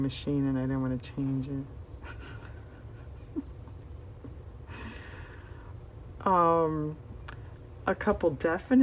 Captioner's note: laughs